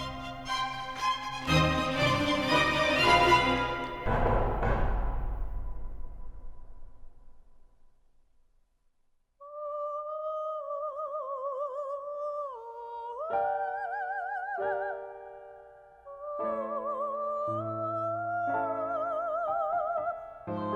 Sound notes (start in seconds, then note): 0.0 dramatic music; 4.1 knocking; 9.8 somber opera music